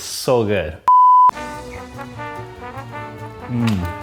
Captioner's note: beep